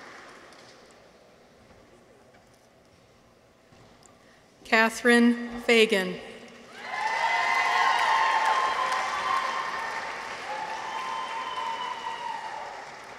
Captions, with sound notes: Kathryn Fagan. -(people cheer) -(audience applauds)